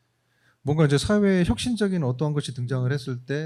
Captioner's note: speaking korean